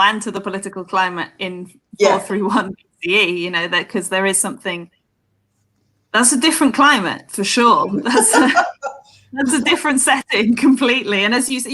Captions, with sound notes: and to the political climate in 431 BCE Because there's a different climate, for sure. (laughter) That's a different setting completely.